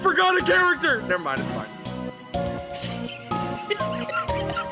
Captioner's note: laughs